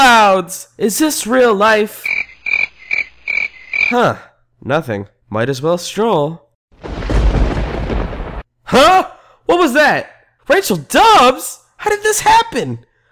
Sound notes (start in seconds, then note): 1.9 cricket; 6.7 lightning strikes